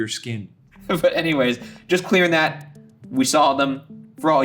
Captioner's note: laughing